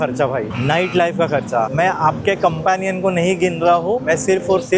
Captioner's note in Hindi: गला साफ़ करने की आवाज़